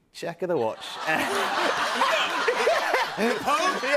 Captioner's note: laughter